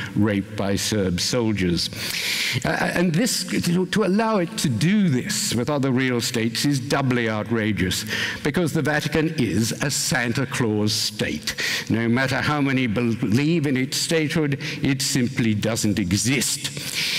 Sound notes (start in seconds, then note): none